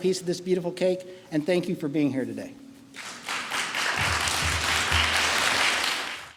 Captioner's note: applause